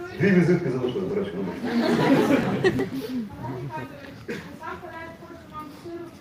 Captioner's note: laughter in the hall